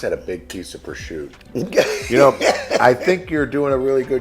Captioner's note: laughs